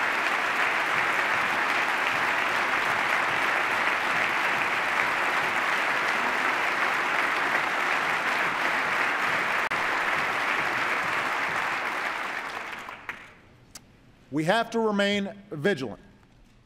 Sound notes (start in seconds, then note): 4.4 applause